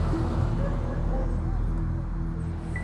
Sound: dog barking

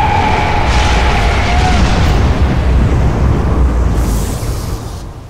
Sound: lightning booming loudly

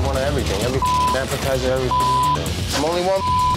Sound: beep

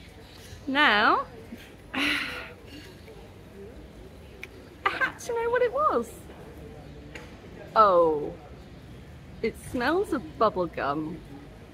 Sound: sigh

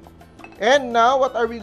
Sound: clang

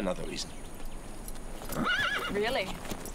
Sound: horse whinnies

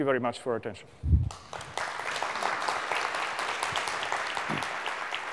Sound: applause

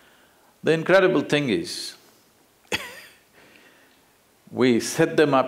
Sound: laughs

